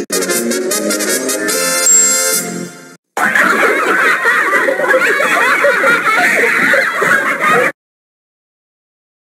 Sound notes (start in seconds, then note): 0.0 trumpet fanfare plays; 3.2 child giggling